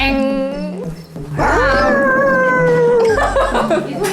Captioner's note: roar